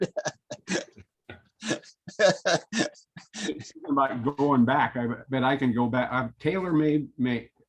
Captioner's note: laughter